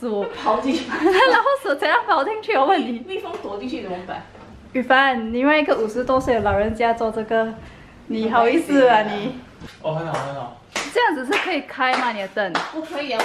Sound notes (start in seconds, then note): 10.1 starts clapping